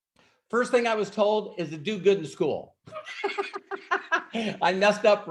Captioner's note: laughs